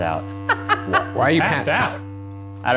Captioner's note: laughs